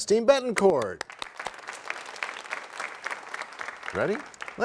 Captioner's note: applause